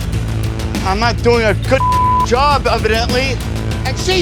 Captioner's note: beep